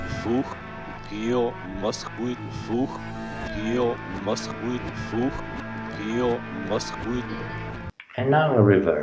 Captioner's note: FAKE John Lennon's voice